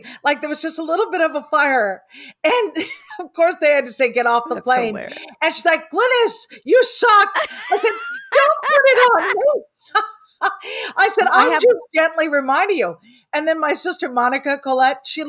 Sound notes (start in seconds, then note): 7.3 laughs